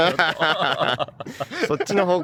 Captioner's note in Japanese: 笑笑